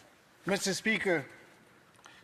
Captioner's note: speaking French